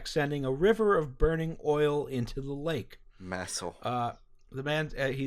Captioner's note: dreamily